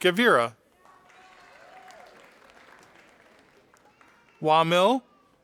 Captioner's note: audience applauding